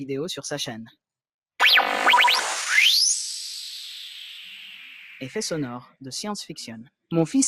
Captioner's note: sci-fi sound effects